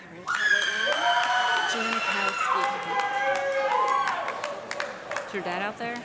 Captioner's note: audience clapping and screaming